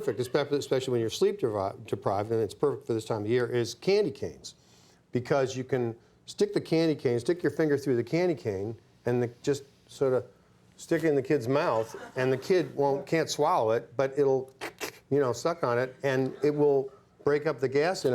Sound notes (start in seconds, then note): 14.6 Bill sucking